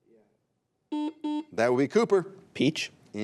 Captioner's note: buzzer beeps